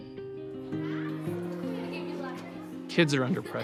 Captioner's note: teenagers chattering